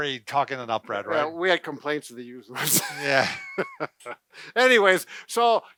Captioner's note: laughing